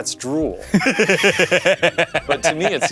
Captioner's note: laughing